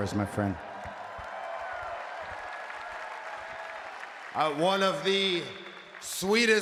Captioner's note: applause